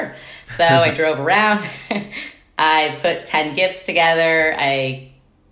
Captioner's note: chuckles